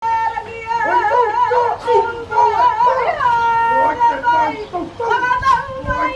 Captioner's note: performers chanting in foreign language